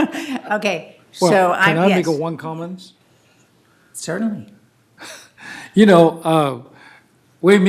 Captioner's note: laughter